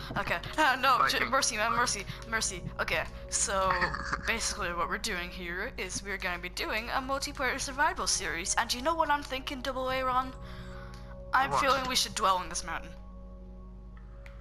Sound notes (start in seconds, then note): 3.7 giggles